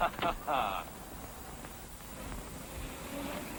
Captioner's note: chuckling